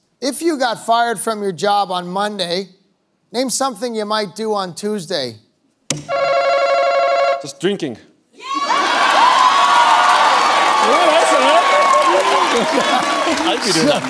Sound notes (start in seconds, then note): 8.2 answer button rings; 11.3 cheering